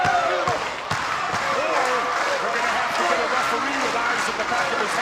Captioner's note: audience applauding